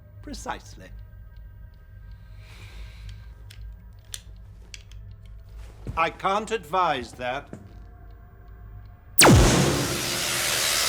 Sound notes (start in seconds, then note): 4.0 clicks; 9.2 laser gunshot